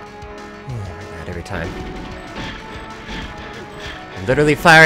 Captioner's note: sighs